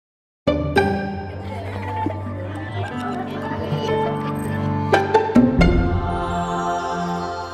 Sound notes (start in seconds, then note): 0.6 bouncy music; 1.0 children laughing